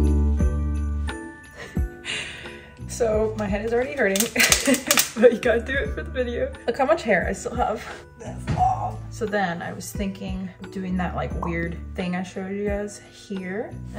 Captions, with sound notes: (laughs) So my head is already hurting, but you gotta do it for the video. Look how much hair I still have. That's long! So then I was thinking, doing that like weird thing I showed you guys here